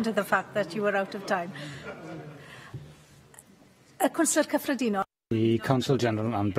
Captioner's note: laughter